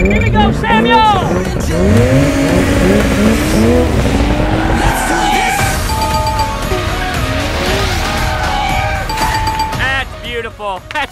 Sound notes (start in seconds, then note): 5.1 brakes screech; 5.6 ding-ding-ding-ding; 7.9 brakes screech; 9.0 ding-ding-ding-ding